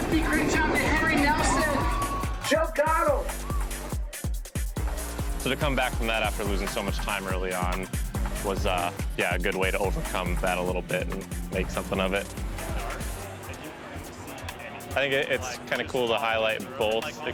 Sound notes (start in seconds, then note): 0.2 upbeat music; 3.7 cheering; 3.7 upbeat music; 12.7 upbeat music